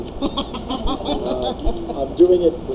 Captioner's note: laughing